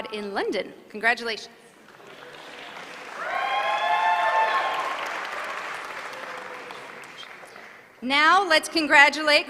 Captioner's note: applause